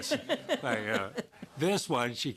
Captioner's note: laughter